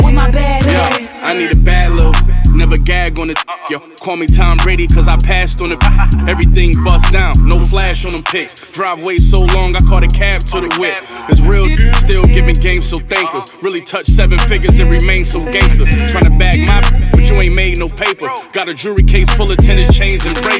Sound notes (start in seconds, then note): 5.6 haha